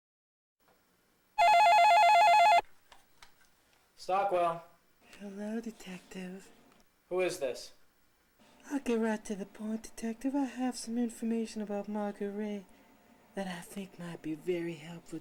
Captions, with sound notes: [Phone ringing] Stockwell. Hello detective. Who is this? I'll get right to the point detective. I have some information about Margaret Ray that I think might be very helpful to